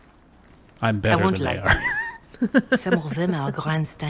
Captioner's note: laughs